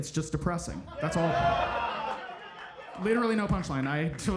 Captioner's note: audience laughing